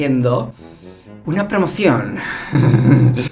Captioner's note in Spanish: risas